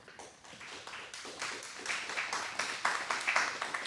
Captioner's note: audience applauding